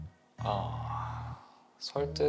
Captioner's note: sigh